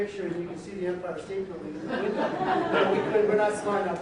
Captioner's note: audience laughs